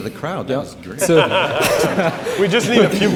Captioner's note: laughing